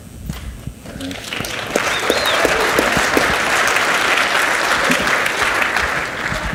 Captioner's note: audience cheers and applauds